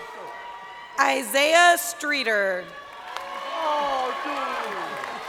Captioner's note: crowd cheering; person in audience shouting